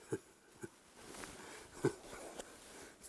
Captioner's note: laughing